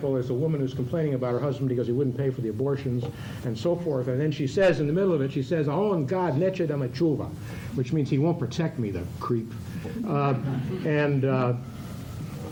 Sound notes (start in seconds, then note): 6.2 non-english speech; 10.1 laughter